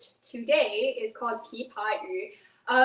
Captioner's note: speaks in foreign language